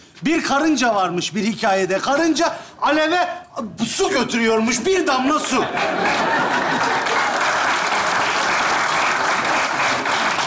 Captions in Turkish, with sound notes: Bir karınca varmış bir hikaye de. Karınca... ...aleve su götürüyormuş. Bir damla su. (Alkış sesleri)